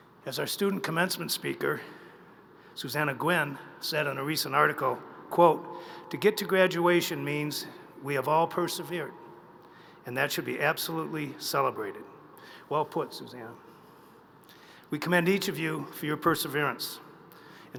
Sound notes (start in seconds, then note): none